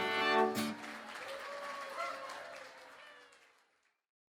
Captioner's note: audience applauds